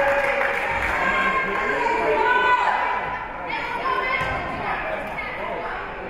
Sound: spectators cheering and applauding; spectators shouting encouragements

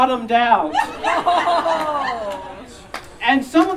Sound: audience Laughing

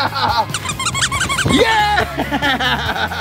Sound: toys quacking

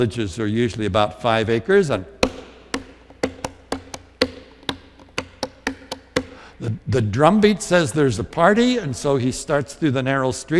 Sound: drums on the podium

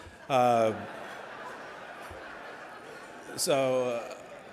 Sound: audience laughing

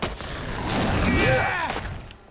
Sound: grunting

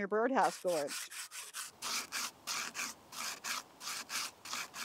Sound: scrapping sound

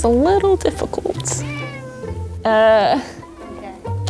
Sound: meowing

